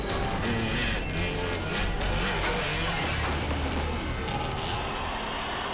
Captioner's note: bike revving; tense music; crowd shouting